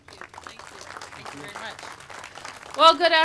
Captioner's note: applause